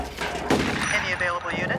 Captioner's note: shot fires